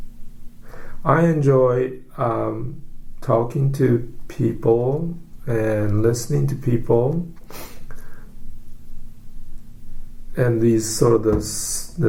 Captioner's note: sniffs